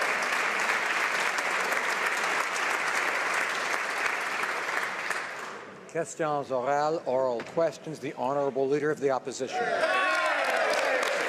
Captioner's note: applause